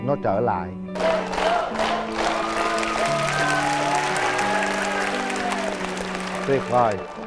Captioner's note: applause; cheering